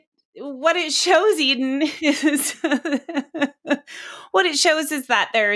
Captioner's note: laughing